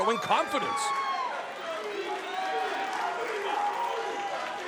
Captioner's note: crowd chanting